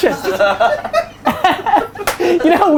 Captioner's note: group laughter